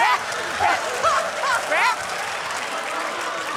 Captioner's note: laughs